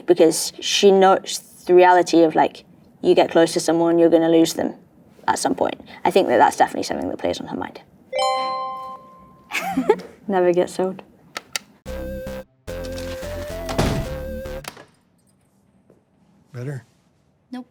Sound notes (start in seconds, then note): 8.1 tone dings; 9.5 Bella chuckles; 11.8 playful 8-bit music